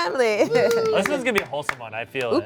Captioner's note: cast claps